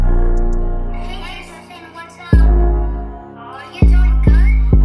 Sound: high-pitched voice

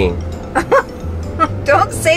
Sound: woman laughing

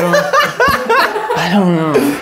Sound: laughing

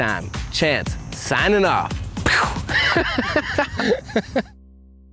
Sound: laughing

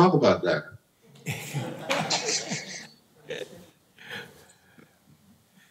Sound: laughter

